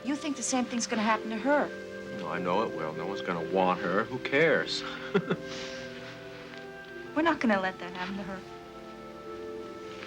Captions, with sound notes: You think the same thing's gonna happen to her. - Oh, I know it will. No one's gonna want her, who cares? (Casey chuckles) - We're not gonna let them happen to her.